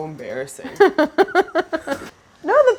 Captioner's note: Claire laughing